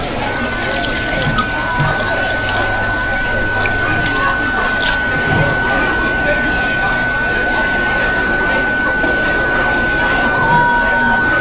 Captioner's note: kitchen noises, light white noise